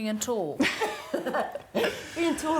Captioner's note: laughs